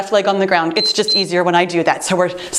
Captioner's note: timer beeps